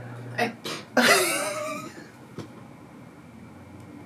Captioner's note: laughing